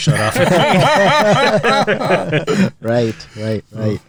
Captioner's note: laughing